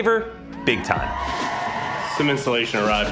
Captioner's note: cheering